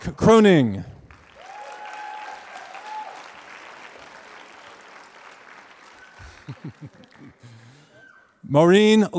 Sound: applause

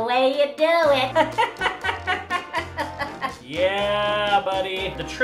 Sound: laughter

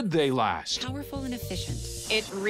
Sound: voice-over

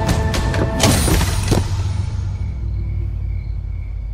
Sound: wood thudding

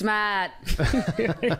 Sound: laughs

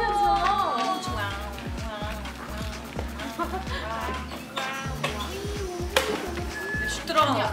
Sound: all meowing

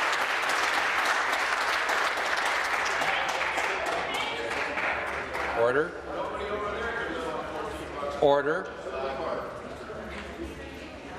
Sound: applause

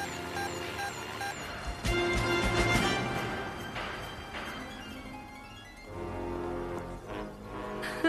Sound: beeping

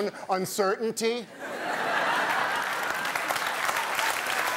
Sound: audience laughing

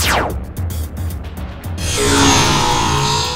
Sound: laser sound

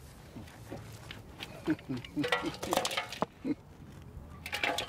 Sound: laughing

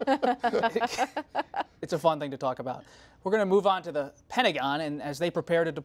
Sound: laughter

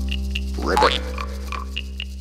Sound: ribbit!

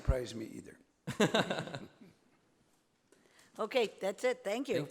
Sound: laughter

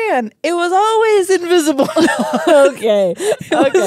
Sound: laugh

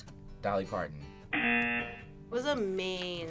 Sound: audio buzzes

